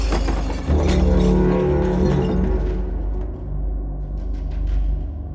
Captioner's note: distorted ominous music; glass shattering; chilling beat; distorted ominous music